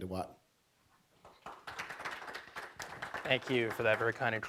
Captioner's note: audience applauds